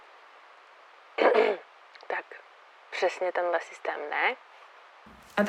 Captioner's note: clearing throat